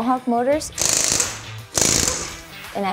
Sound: sound of power tools

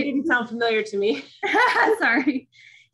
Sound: chuckling

